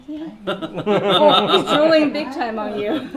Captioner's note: all laughing